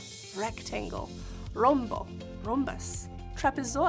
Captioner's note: speaking in Spanish